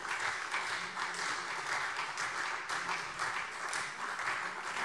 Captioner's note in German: Beifall SPD und vereinzelt Freie Demokraten